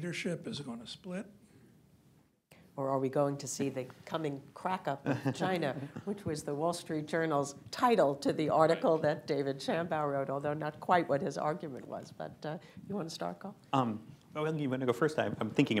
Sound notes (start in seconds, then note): 5.0 laughter